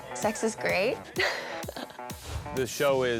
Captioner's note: laughing